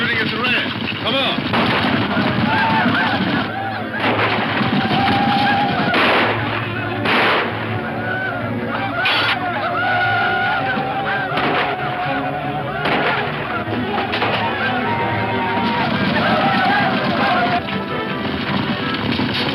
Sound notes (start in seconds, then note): 0.0 gunshots; 7.2 bowl shatters; 8.7 Indians yell; 12.7 gunshots; 14.9 Indians yell